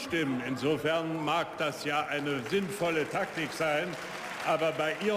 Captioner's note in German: Beifall